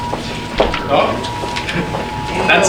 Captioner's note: siren blaring